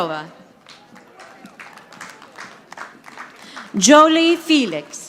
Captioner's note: audience applauding